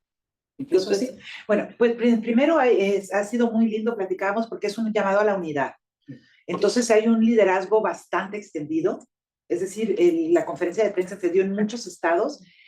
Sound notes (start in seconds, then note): 1.1 speaking Spanish